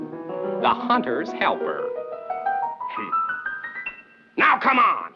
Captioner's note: scoffing